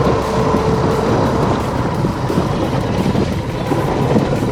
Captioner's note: boat motor slows